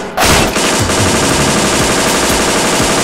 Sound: gunfire

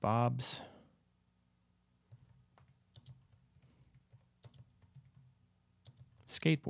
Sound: typing

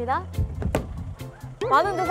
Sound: heart beating

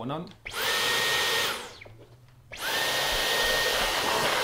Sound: vacuum whirring

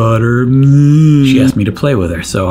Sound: groaning

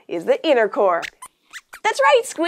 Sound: squeaks squeaking

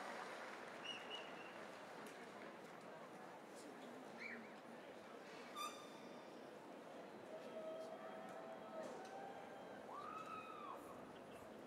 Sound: cheers and applause

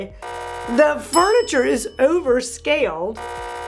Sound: buzzer rings; bell chimes; buzzer rings

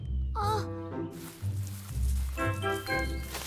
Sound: rustling

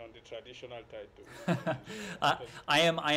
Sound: laughter

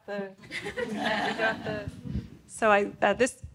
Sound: audience laughing

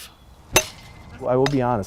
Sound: bat hits

